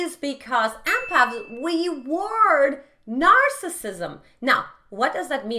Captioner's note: bell chimes